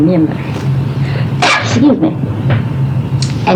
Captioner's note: cough